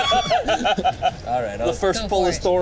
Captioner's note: laughing